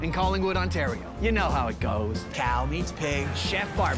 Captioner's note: none